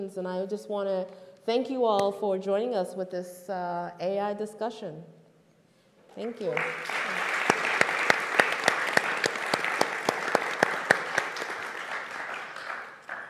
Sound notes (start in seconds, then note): 6.2 group clapping